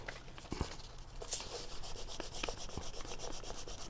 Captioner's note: crayon scrapes